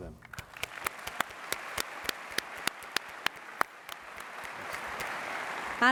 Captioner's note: applause